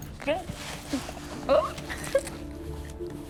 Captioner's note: laughing